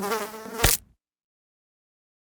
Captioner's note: fly buzzing; fly splatting